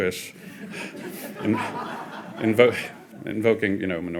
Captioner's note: audience laughing